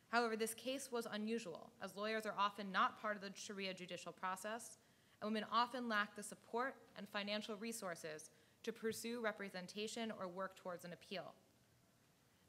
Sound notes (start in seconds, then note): none